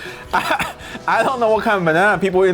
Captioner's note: laughs